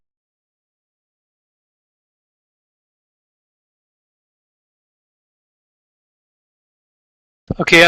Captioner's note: audio cuts out